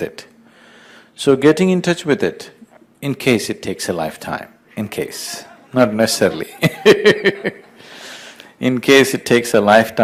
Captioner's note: laughs